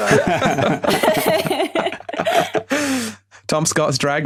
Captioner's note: others laughing